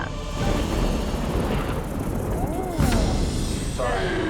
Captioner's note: thunder rumbles